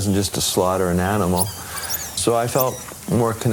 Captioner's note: people talking ambience